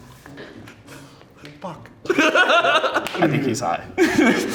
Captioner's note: laughs